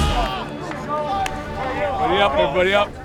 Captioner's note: player clapping; team cheering